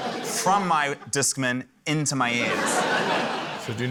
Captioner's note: laughter; laughter